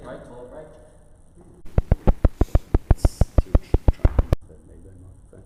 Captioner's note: microphone popping